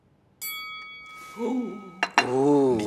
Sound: bell pings; Cookie Monster gasps

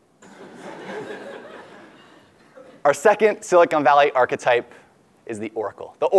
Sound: laugh

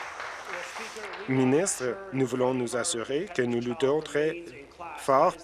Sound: applause

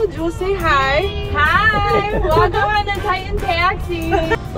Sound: laughing

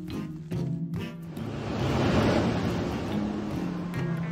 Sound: gust of wind

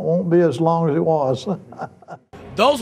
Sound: chuckles

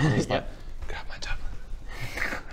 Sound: whispers

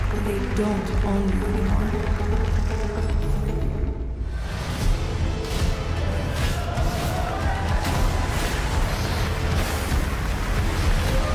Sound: applause

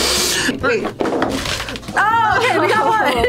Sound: box clangs

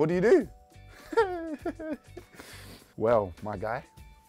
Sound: laughing

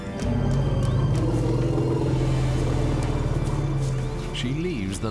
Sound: elephants grumble

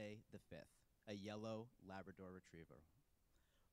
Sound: none

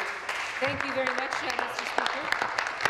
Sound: applause

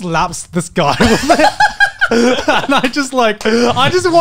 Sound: everyone laughs

